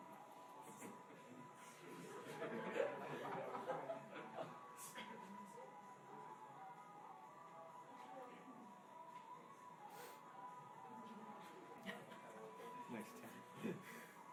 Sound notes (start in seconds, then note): 2.1 laughing